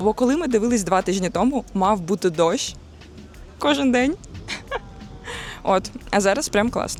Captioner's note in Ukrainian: сміх